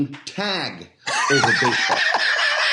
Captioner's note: laughs